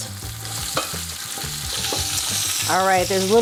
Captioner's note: light music; meat continues sizzling